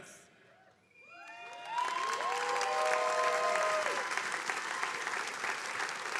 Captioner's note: attendees cheering and applauding